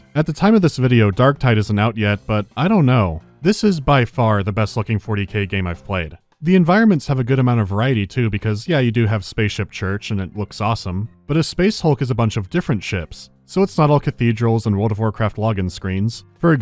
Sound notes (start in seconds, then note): none